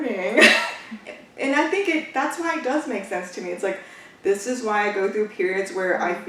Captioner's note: laughs